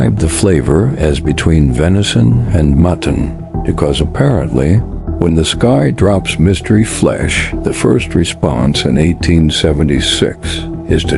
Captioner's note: sarcastic Commentary